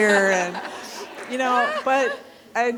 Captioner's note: people laughing